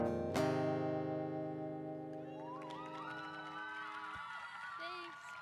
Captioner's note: audience applause